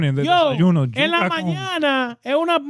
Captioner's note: speaking In Foreign Language